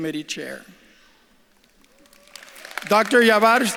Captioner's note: audience claps and cheers